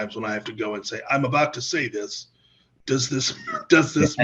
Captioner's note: laughs